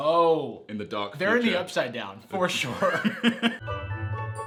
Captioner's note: laughs